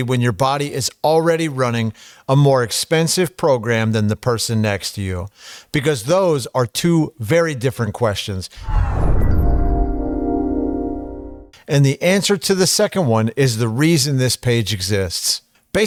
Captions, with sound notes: when your body is already running a more expensive program than the person next to you? Because those are two very different questions. (whooshing) And the answer to the second one is the reason this page exists.